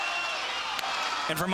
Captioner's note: audience cheering